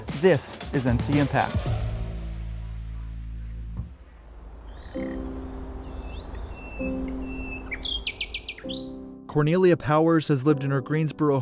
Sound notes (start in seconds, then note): 0.0 upbeat music; 4.6 birds chirping; 4.6 gentle music